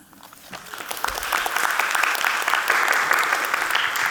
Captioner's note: audience clapping